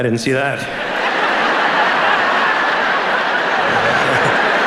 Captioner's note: audience laughing